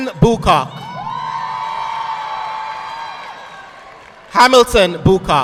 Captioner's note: audience clapping